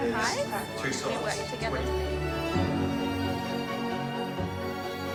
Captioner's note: artists chattering